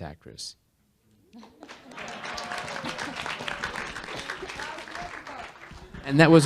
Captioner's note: audience Cheering